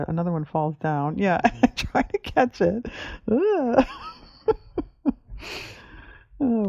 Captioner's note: laughs